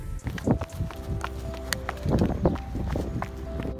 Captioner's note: footsteps; wind blowing